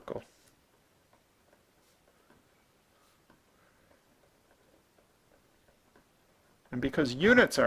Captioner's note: writing